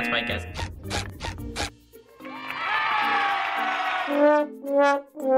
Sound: squeaking; crowd cheering; sad trombone

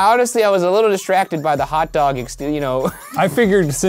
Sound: laughs

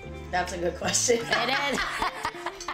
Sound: laughter

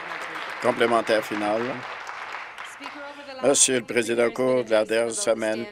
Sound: applause

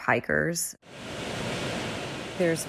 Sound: air conditioners whooshing

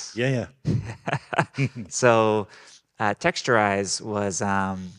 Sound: laughing

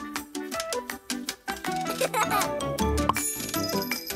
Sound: giggles

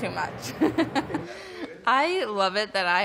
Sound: laughs

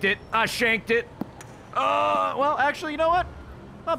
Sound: none

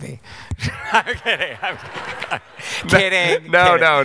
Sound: laughing

